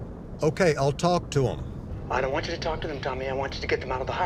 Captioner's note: on phone